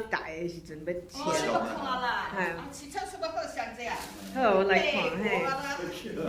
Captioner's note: speaking foreign language